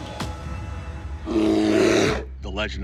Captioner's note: growl